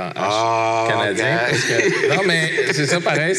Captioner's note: laughs